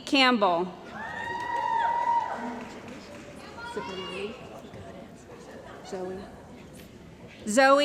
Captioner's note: cheering & Applause